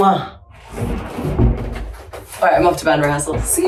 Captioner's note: door thudding